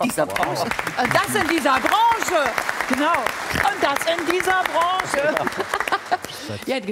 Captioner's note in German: Applaus